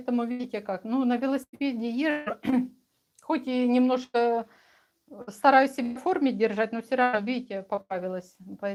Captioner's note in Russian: откашливается